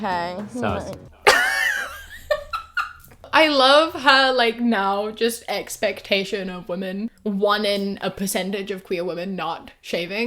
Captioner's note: laughs